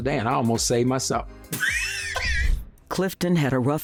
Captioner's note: laughing